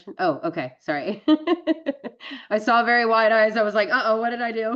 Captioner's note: laughs